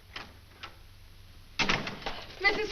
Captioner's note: door opens, closes